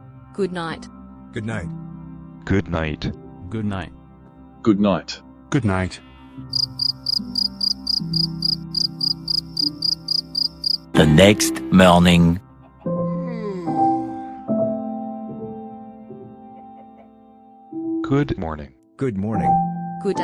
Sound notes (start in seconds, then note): 6.5 night crickets chirping; 12.6 yawns